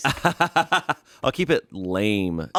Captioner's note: laughs